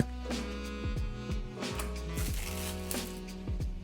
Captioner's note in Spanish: ruidos de un CD-R nuevo al desempaquetar